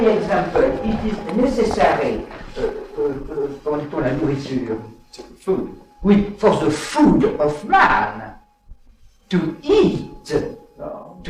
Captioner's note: animals